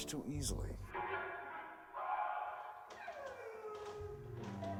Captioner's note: screaming; woman sobbing